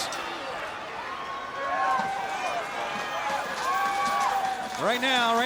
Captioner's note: crowd continues cheering